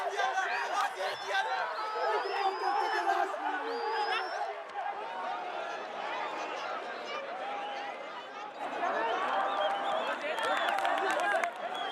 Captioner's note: shouting in afrikaans